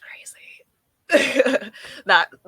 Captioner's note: laughing